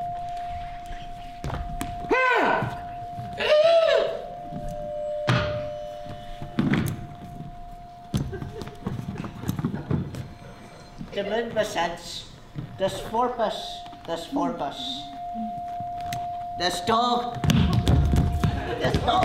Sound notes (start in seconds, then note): 2.0 shrieks; 4.8 glassy metallic sounds